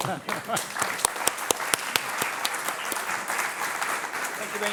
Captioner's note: audience applauding